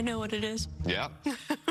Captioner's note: laughing